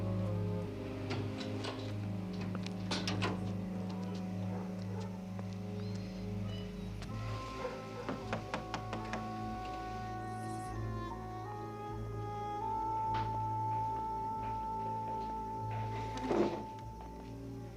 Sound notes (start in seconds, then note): 0.9 gate opens; 8.0 knocking on door